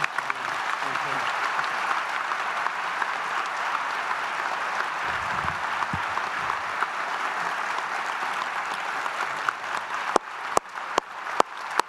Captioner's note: applause